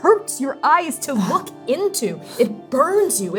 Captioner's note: wincing